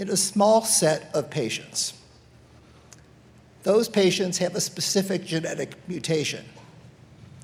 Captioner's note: none